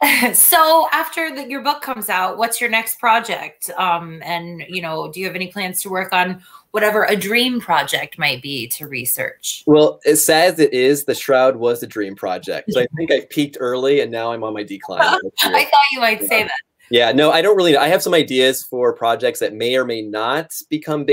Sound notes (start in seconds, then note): 15.0 laughter